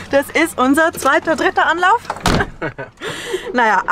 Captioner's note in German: lacht